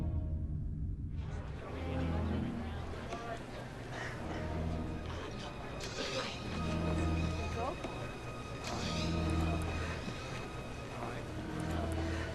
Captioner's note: background voices